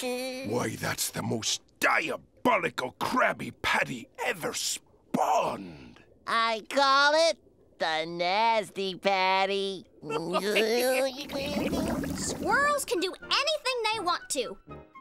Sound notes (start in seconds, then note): 10.0 laughing